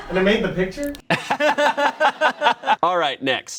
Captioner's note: all laugh